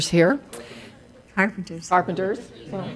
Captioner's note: woman's Voice